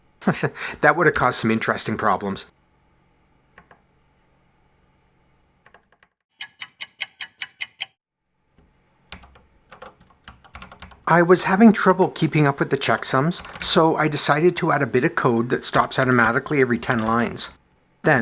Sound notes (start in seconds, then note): 0.2 chuckles; 6.3 clock ticking